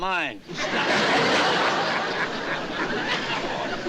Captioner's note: cartwright laughing